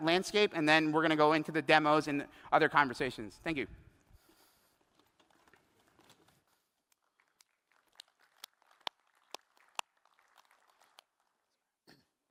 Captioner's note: applause